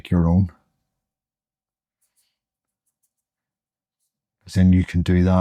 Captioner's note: silence